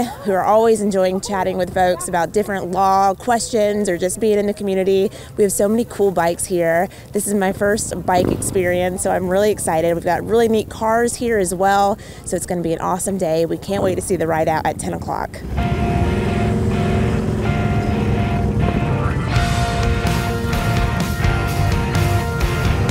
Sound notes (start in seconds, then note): 16.5 motorcycle engine roaring; 19.6 upbeat rock music